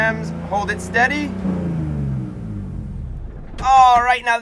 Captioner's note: engine shutting off noises